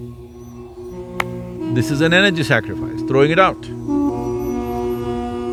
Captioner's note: clapping sound